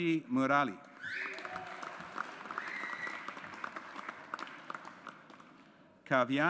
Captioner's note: audience applauds